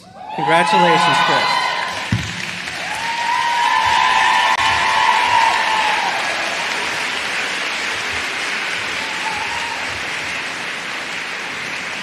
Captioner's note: applause